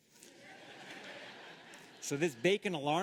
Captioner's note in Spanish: Risas